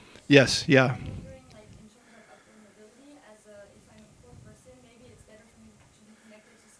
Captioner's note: faintly speaking